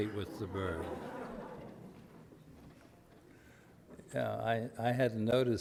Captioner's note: audience laughter